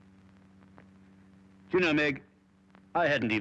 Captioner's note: none